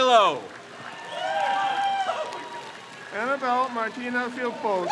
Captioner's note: crowd cheers